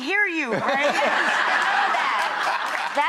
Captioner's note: laughs